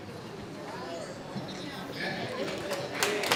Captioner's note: clapping